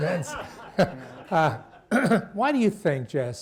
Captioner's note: laughter